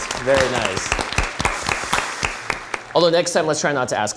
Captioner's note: audience applauding